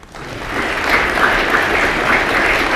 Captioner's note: applause